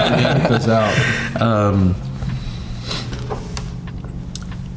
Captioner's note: all laughing